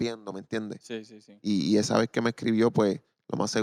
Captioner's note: speaking Spanish